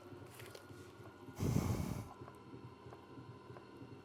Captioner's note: sighs